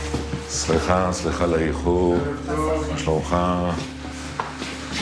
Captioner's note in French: Hebrew spoken language